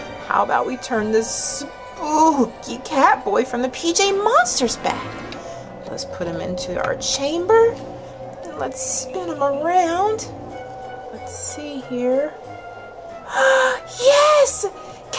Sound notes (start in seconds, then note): 13.1 gasps